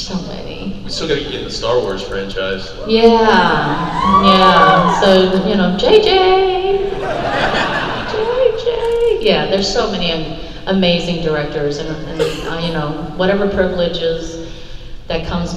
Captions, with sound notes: There's so many. - We'll still got to get you in the Star Wars franchise. - Yeah, yeah. - So, (singsong) J.J.! (crowd laughs) (singsong) J.J.! Yeah, there's so many amazing directors, and whatever privileges that comes my way,